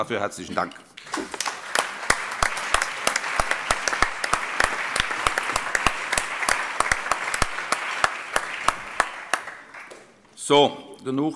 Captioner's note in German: Allgemeiner Beifall